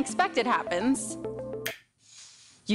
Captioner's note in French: snaps fingers